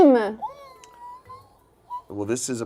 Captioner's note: squeals